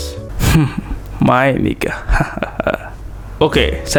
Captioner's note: laughing a little